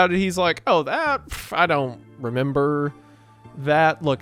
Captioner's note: scoffs